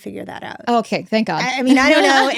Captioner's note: laughs